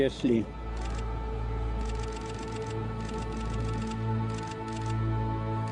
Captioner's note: camera shutter clicks